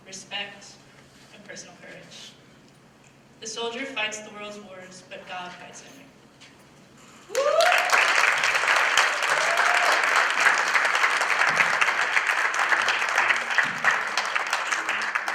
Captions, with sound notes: respect, and personal courage. The soldier fights the world's wars, but God fights the enemy. (applause)